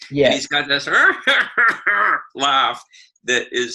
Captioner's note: cackling